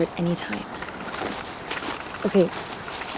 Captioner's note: footsteps crunching